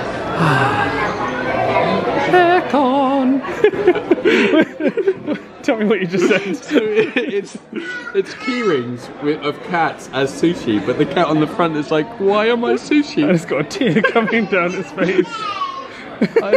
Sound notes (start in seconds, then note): 2.4 sing songy; 3.4 both giggling